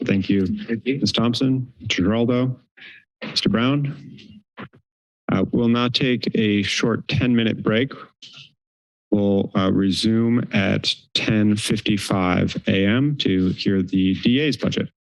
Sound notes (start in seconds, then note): 4.1 silence; 9.2 pause